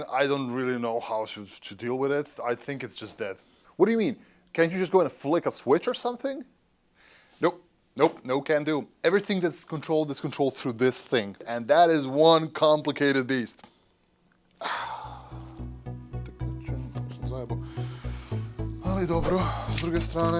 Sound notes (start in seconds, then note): 14.6 sighing; 16.3 speaking in foreign language